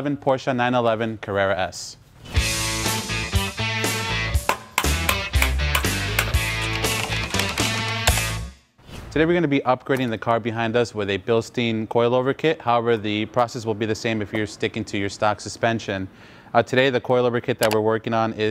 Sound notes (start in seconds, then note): 2.4 upbeat music; 4.4 hammer knocking